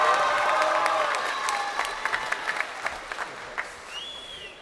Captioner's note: crowd cheering